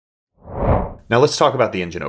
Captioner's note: screen whooshes